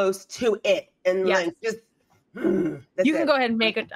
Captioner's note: grunts